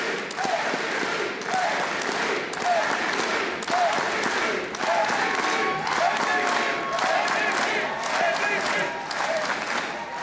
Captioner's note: chanting